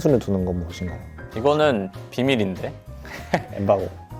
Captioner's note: laughs